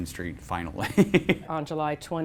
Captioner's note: laughter